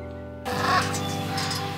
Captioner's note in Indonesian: Suara Burung